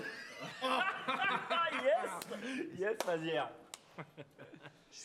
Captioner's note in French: rires